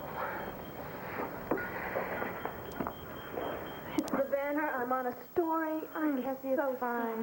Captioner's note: pager beeps